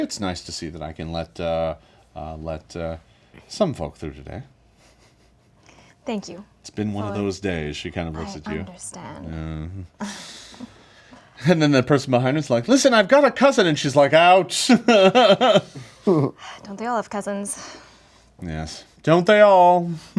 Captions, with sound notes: It's nice to see that I can let some folk through today. - Thank you. - It's been one of those days, she kind of looks at you. - I understand. - And then the person behind you is like, listen, I've got a cousin! And she's like, out! (laughing) - Don't they all have cousins? - Yes, don't they all.